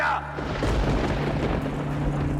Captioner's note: thunder breaking